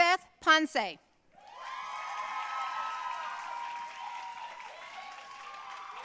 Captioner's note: audience cheering and applauding